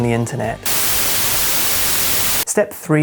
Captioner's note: static